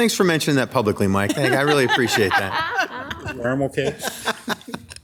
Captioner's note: members laughing